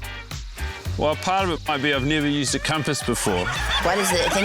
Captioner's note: laughter